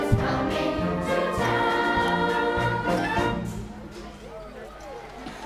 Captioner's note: applause